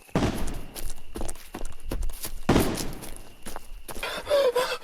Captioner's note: distant gunshots